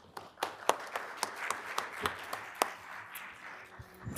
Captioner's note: applause